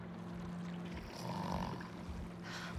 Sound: snore

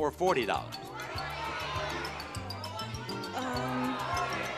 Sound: audience shouting

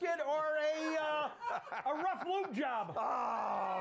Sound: laughter

